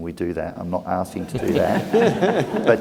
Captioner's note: laugh